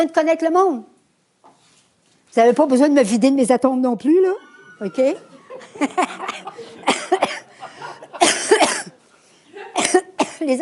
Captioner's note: laughs